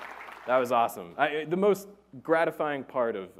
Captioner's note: applause